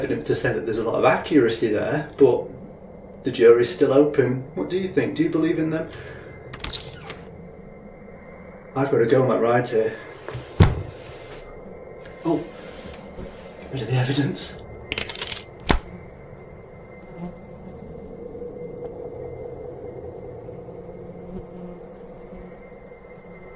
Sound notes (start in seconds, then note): 15.7 head splats on ground; 20.6 flies buzzing